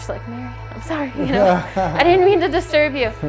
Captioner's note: laughs